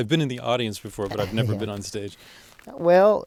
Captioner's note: laughs